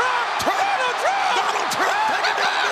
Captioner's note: crowd roaring